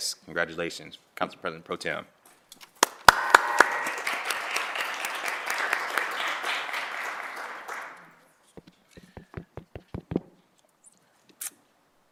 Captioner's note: applause